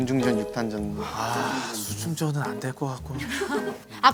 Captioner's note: ugh